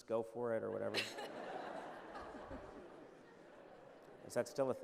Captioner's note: laughter